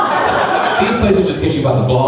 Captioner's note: crowd laughing